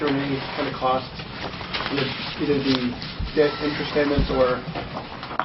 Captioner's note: reporter talking